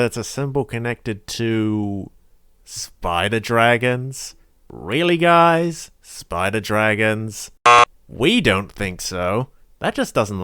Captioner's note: buzzer sound